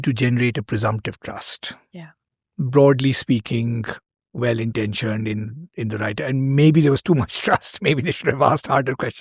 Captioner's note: chuckles